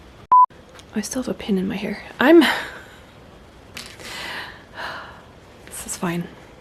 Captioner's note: laughs, sighs